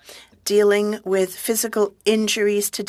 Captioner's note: speaking french